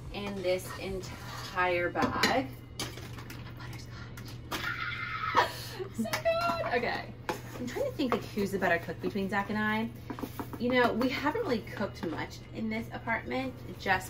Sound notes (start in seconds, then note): 4.7 makes noise of excitement